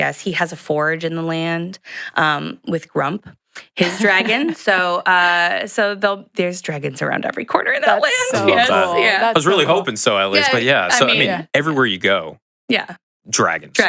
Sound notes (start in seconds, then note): 3.8 chuckles